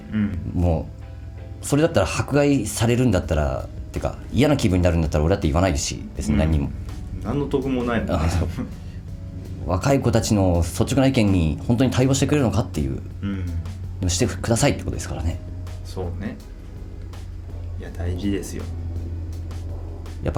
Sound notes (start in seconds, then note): 8.0 laughs